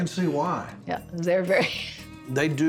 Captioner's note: chuckles